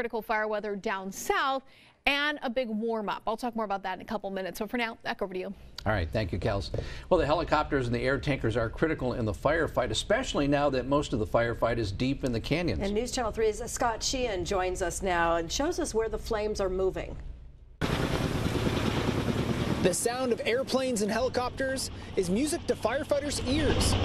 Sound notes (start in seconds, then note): 17.8 sounds of aircraft